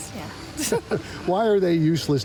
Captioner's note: both laugh